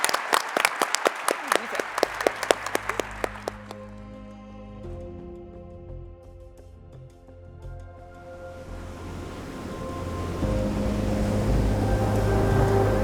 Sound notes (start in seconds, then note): 4.1 gentle bright music; 8.3 waves crashing